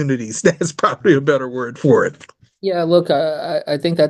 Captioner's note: laughs